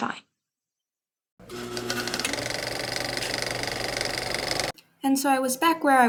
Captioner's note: old-fashioned camcorder noise